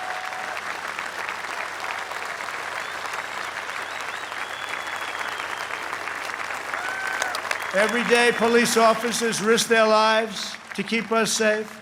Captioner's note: applause